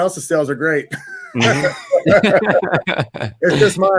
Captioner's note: all laugh